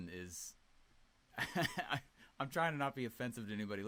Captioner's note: laughing